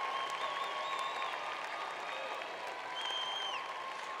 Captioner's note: applause